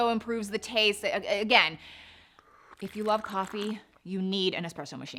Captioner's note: lips slurping